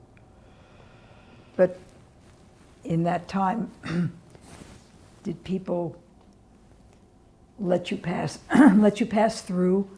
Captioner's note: clears throat